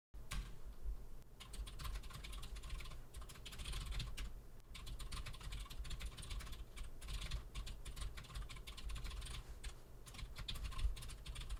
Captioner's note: typing sounds